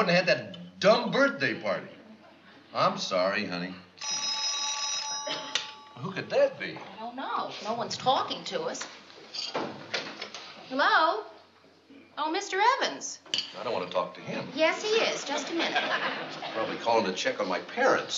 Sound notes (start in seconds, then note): 4.0 phone ringing